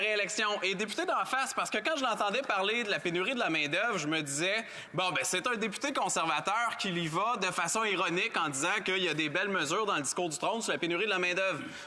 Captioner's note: speaking French